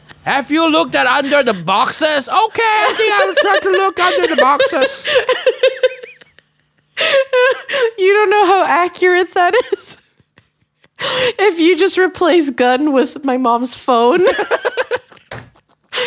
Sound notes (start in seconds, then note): 5.1 laughs; 10.8 laughs; 14.2 both laugh